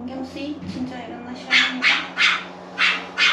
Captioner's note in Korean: 왕 왕 왕